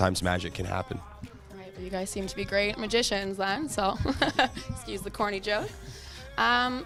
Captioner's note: laughter